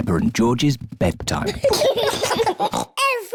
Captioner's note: both giggle